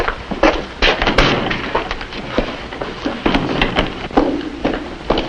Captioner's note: door opening and closing; stomping down hallway